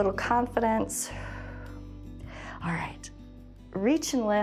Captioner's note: exhales